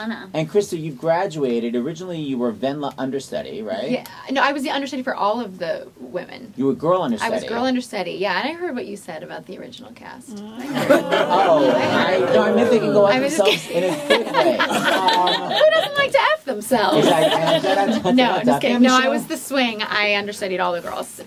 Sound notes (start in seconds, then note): 10.5 laughing off screen; 13.2 laughing; 13.3 people off screen & laughing